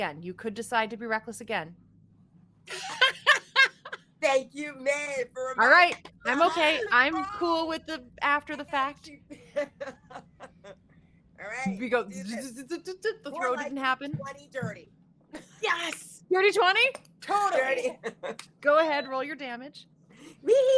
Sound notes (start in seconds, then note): 2.7 laughs; 12.5 imitates tape rewinding